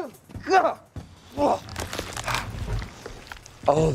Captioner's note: Deadpool groaning